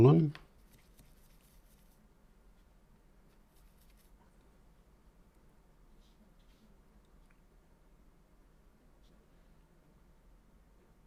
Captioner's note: silence